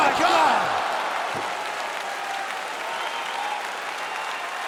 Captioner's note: crowd claps and cheers